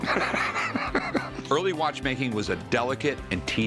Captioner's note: laughs